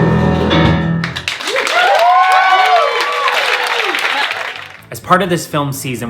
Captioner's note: applause